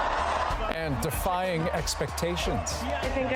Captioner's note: cheering